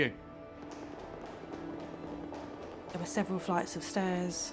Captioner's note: hurried footsteps clacking